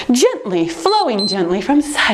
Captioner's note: timer beeps